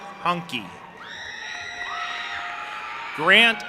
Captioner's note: audience applauding and cheering